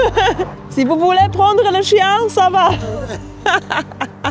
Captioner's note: laughs; speaks French